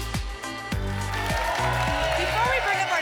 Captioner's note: applause and cheering